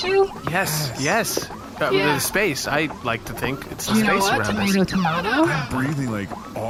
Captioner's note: excited